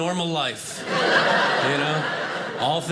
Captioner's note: audience laughing